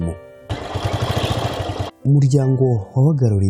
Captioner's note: sound of a motorcycle starting up; speaking in Kinyarwanda